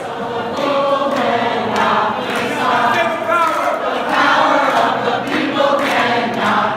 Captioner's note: loud Chanting